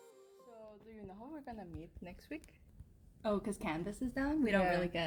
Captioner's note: students Talking